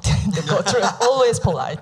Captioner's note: laughing